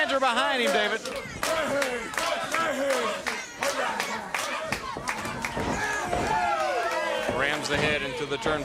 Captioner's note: crowd cheering